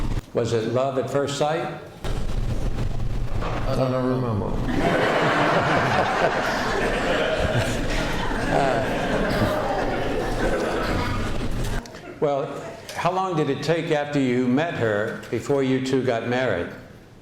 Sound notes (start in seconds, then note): 4.6 laughter